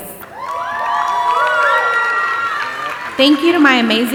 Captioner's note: audience applauding and cheering